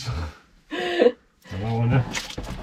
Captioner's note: laughter